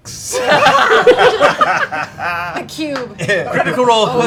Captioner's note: laughter